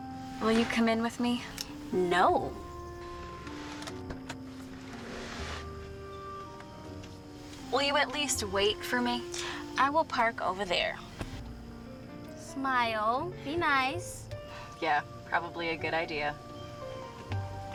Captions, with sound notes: Will you come in with me? No! (door opens) Will you at least wait for me? I will park over there. Smile. Be nice. Yeah, probably a good idea.